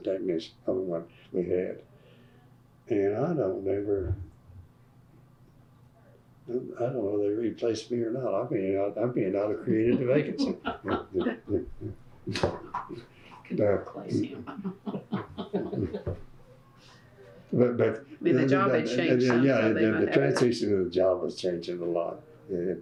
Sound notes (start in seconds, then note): 14.4 laughter